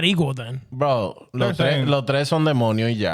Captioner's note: speaking Spanish